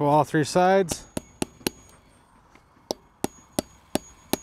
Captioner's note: hammer clanging